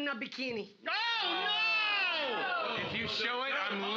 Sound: audience groaning

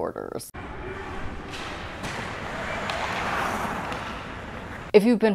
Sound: hockey noises and ice skating

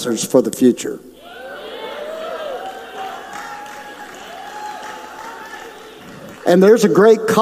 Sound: audience cheers

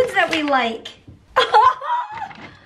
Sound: laughter

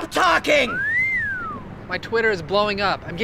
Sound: whistle

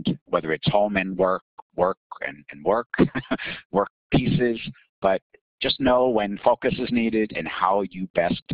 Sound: laughing

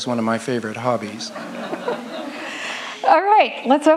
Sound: audience laughs

